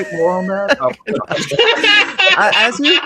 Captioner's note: all laughing